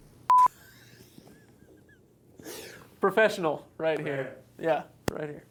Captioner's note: beep; laughing